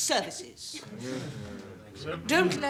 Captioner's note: murmurs